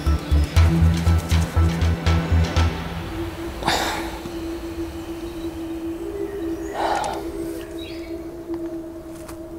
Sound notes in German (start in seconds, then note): 3.4 Sie stöhnt